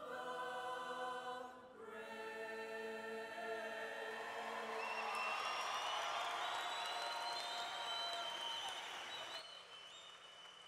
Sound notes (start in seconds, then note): 6.0 cheering